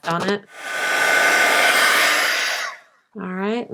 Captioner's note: heat tool whirs